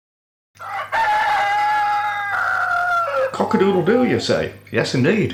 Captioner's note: cock crowing